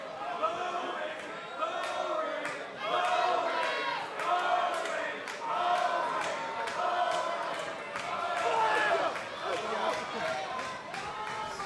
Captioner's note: crowd cheering